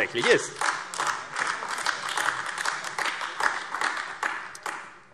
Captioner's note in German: Beifall AfD